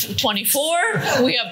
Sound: laughter

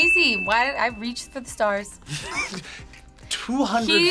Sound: laughs

